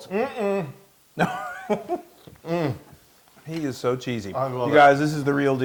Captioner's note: laugh